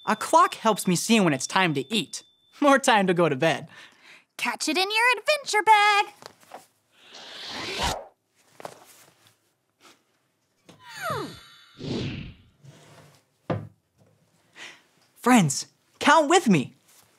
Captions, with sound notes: A clock helps me see when it's time to eat or time to go to bed. - Catch it in your adventure bag. (clock pass swooshes) (picture passes swooshes) - Friends, count with me.